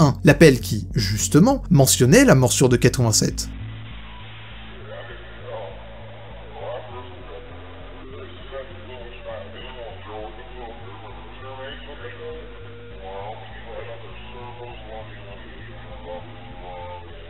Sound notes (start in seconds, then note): 3.6 background Noise